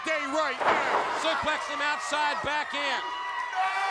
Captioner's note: body thudding